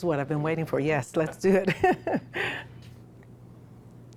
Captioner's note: laughs